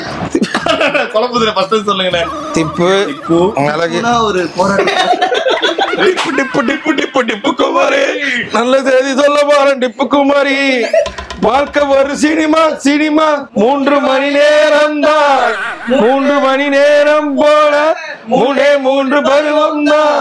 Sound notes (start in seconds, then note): 4.0 laughs